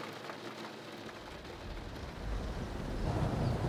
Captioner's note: the sound of wind and rain